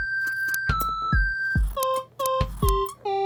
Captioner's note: squeaky scissors >.<